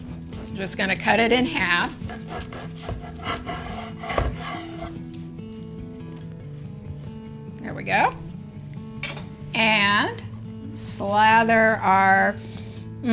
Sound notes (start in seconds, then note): 2.1 knife swishing; 8.8 knife clacking